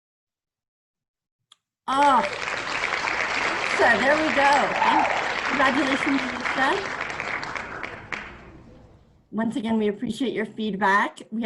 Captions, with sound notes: (loud applause) Ah, Lisa, there we go! Congratulations, Lisa. Once again, we appreciate your feedback.